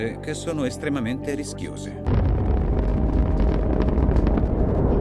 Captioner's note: explosions